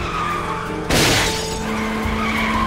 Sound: glass shatters; tires squealing

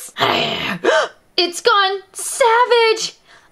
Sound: growls; gasp

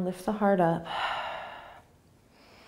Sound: inhaling; exhaling

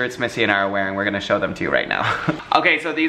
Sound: laughs

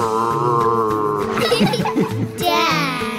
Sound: laughter

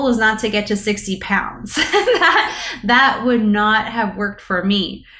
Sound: laughs

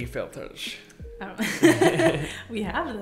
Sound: both laughing

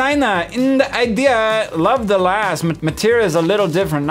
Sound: sassy accent

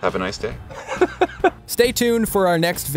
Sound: laughs

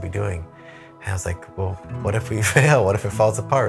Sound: chuckles

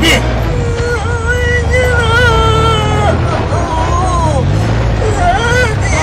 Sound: Emman whimpering

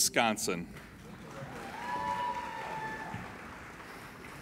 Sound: applauding

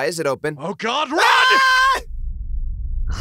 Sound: Trunks screaming

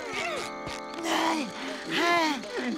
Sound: panting

